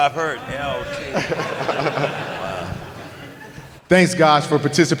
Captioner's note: laugh